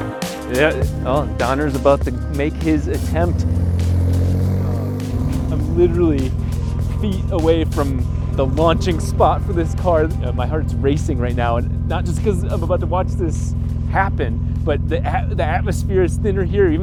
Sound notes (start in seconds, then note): 0.2 bright music; 3.3 car engine idling